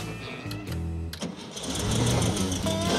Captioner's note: engine running